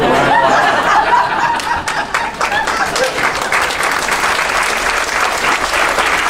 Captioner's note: crowd laughing and applauding